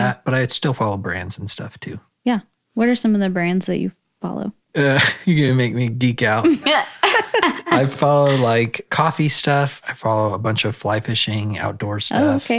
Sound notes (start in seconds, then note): 5.0 chuckles; 6.8 laughs